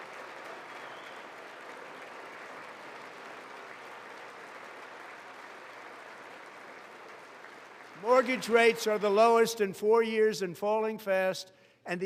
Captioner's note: applause